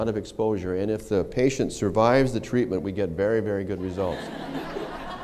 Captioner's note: laughter